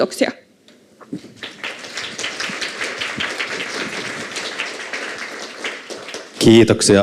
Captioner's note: Aplodeja